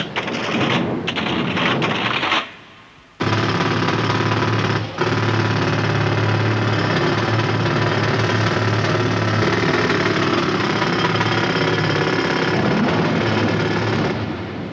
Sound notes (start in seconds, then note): 3.2 drilling